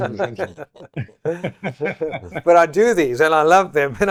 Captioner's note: laughter